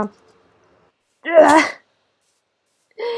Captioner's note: grunt of frustration